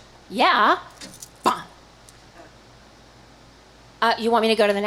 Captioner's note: exhales explosively